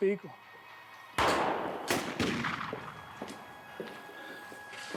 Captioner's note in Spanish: siguen los disparos